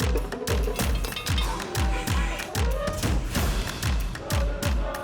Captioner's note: drummers tapping; upbeat music; metal clanging; horns trumpeting; singers harmonize faintly